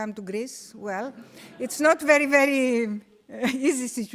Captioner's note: audience laughing